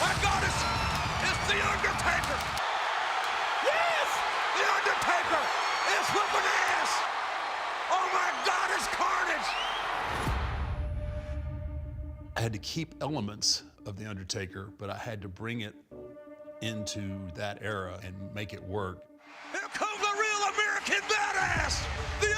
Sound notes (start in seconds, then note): 2.3 crowd roaring